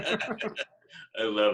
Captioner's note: laughing